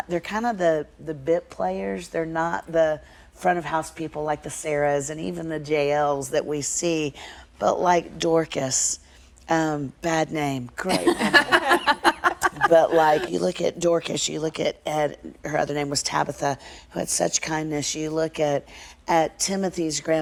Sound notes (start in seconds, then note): 12.5 laughter